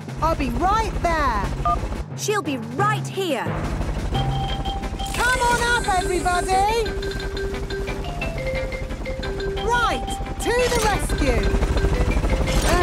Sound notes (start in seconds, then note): 1.3 phone beeps; 3.5 distant helicopter noise